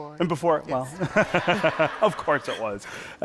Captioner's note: laughter